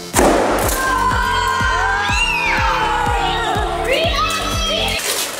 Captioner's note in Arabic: صراخ الأطفال